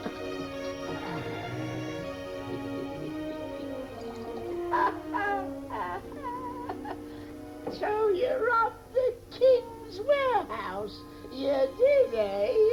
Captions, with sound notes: (laughing) - So you offed the kings warehouse, you did eh?